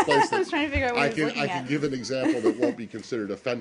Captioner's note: laughter